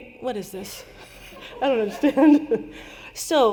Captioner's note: laughter